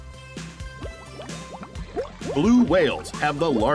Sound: heart thumping; water bubbling

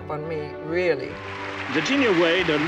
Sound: spectators applauding

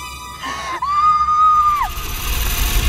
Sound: suspenseful music; screams; suspenseful music

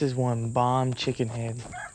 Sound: rooster crows

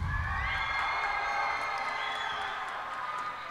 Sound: cheers and applause

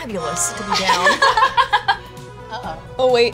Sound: laughter

